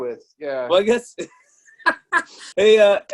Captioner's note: laughs